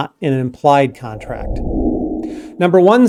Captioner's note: air swooshing